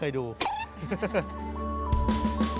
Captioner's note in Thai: เสียงหัวเราะ